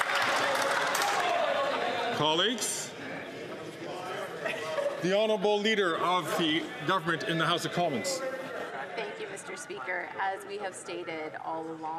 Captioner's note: some Applause